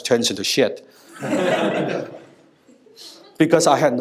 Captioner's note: laugher